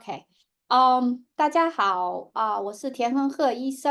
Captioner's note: speaking chinese